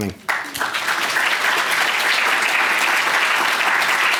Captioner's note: applause